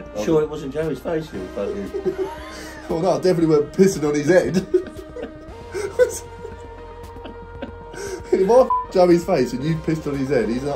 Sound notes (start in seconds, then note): 5.9 both laughing